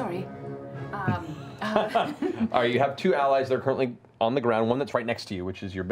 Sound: laughs

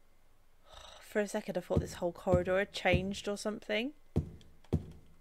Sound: relieved sigh

